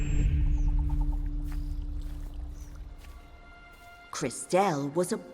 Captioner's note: grass crunching